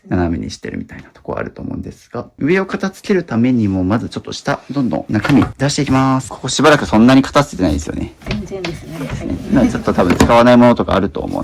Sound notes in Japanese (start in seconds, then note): none